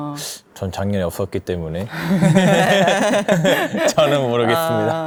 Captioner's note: laughs